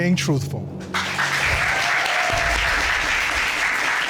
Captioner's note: audience cheers